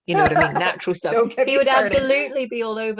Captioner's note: laughter